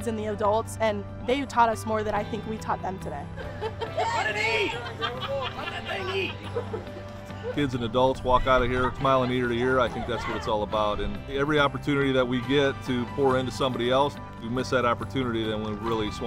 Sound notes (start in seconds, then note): 3.4 laughter